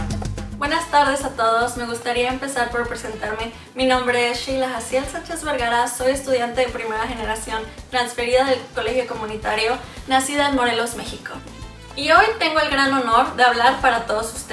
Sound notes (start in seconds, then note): 0.6 speaks in foreign language